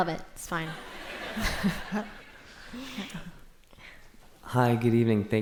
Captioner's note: laughter